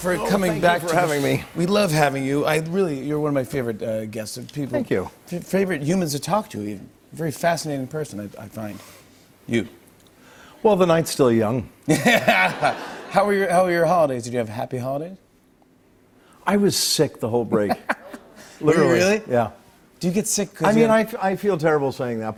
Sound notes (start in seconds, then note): 11.9 laughter